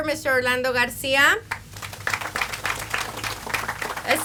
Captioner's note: audience applauds